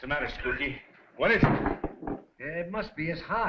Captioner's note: head thudding